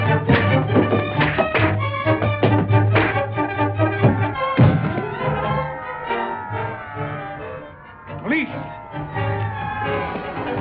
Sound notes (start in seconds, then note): 4.2 sirens blaring